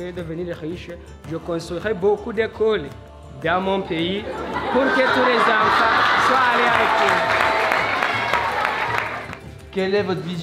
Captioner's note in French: applaudissement